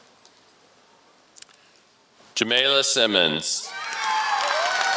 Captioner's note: applause